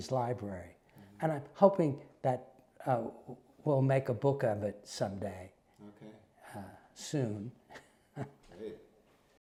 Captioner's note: laugh